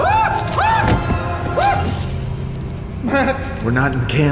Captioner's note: Max and Dell screaming; head thuds